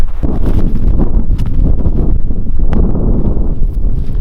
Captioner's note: wind blowing